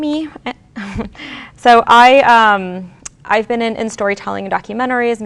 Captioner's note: chuckles